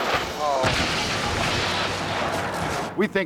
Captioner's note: yacht crashes